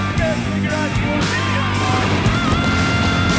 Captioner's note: heavy surf; instructors yelling; explosion